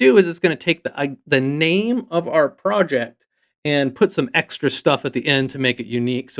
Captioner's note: none